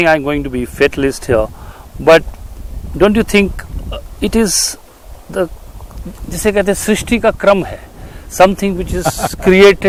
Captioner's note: speaks in Hindi – not transcribed